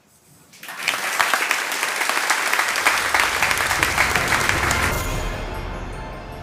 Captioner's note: applause